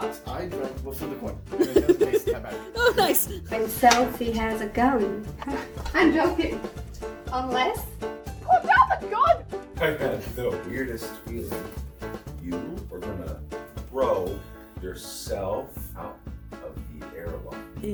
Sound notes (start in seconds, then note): 1.6 laughing from behind camera; 5.1 laugh; 10.1 laughing